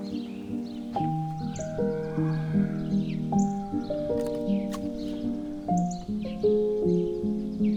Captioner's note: horse braying; horse neighing